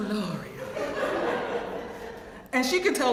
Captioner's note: laugh